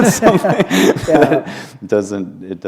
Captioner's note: laughter